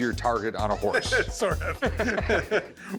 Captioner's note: laughs